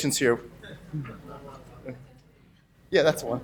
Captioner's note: laughs